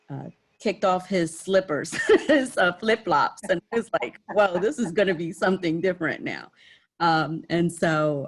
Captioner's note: laughter